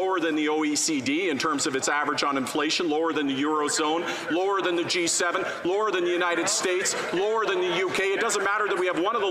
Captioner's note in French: voix de l'interprète